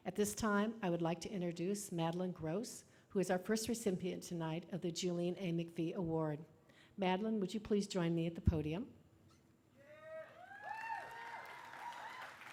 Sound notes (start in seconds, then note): 10.5 applause